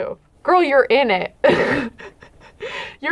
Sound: chuckles

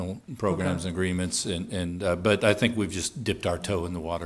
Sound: laughing

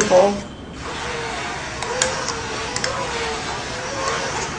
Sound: mechanical whirring

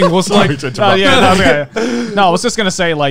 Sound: laughing

